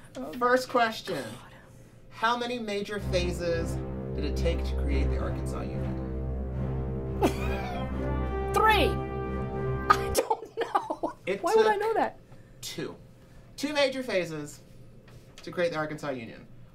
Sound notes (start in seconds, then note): 7.2 she laughs; 9.9 laughing